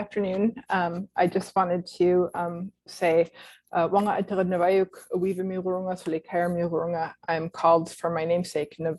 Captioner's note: non-english speech